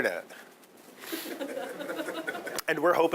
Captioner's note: audience laughing